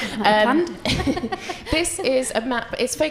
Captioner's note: people laugh